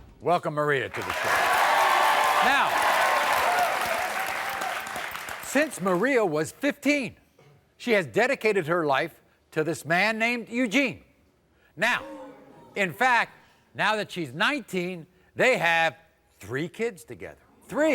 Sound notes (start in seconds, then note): 0.9 audience cheers